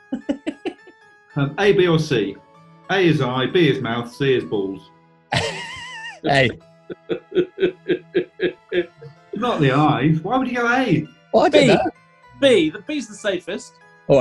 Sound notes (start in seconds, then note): 0.1 giggling; 6.9 laughing; 6.9 chortling